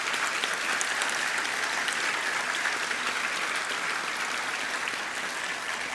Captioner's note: applause